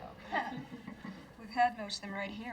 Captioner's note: some people laugh